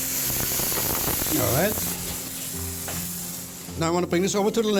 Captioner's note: sizzling